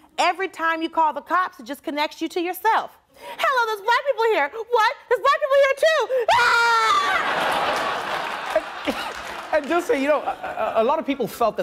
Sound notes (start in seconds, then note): 6.0 she screams; 7.0 audience laughing